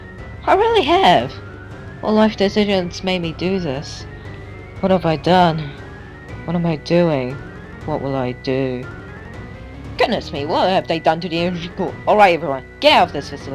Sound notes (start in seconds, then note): 8.9 sirens wail